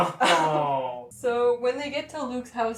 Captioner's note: laughter